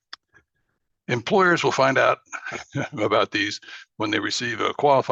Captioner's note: laughs